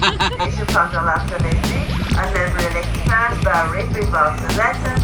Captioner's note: laughing; train announcement